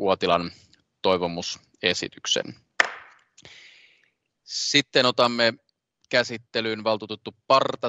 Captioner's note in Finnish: nuijan kopautus